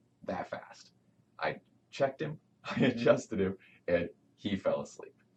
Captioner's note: chuckles